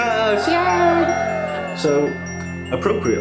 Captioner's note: cheering